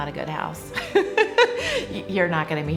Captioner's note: laughing